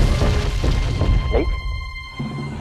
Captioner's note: gulps